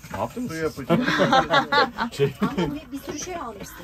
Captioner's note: laughters